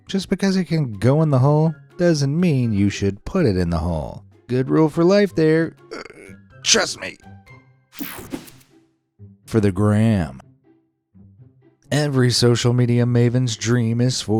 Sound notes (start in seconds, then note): 5.9 straining